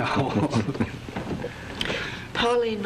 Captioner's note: laughs